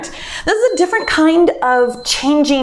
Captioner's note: timer beeps